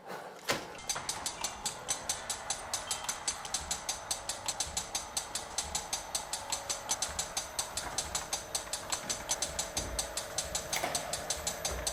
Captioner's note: sounds: Monitor